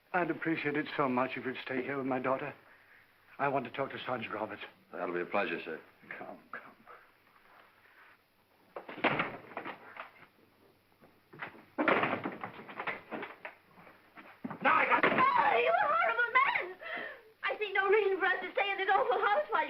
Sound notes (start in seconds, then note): 8.8 door closes; 11.3 door opens; 11.4 door closes